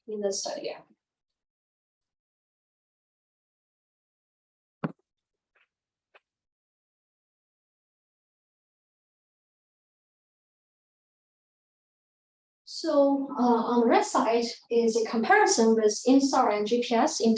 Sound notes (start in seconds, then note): 0.9 microphone Noise; 0.9 silence